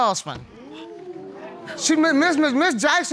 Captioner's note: audience gasp